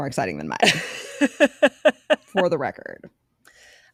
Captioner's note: laughing